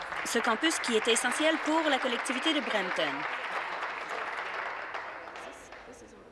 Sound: applause

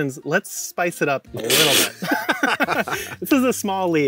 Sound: hisses; both laughing

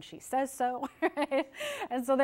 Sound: laughs

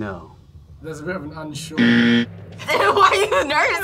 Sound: buzzer; laughs

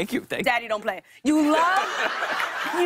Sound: laughter

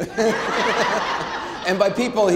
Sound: Anderson and audience laughing

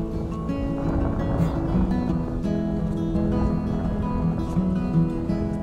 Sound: sound of the wind

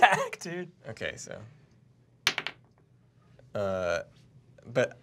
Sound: dice clacks

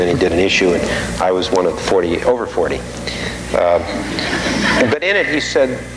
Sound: audience laughing

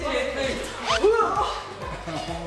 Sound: laughter

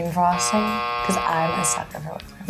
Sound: buzzer rings

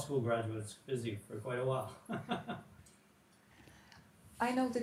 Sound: chuckles

